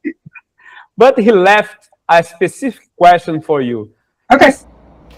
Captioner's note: laughs